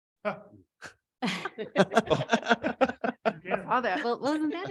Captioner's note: people laughing